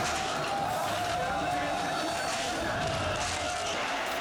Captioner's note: people shouting